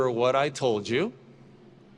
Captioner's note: none